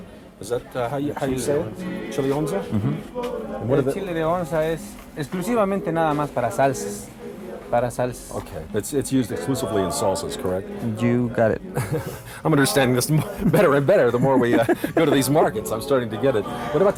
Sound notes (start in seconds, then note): 6.0 speaking in foreign language; 11.7 laughs